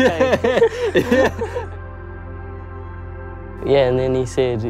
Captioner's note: laughter